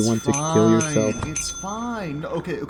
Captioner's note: ringing from Bell